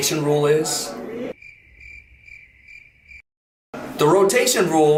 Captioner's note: crickets chirping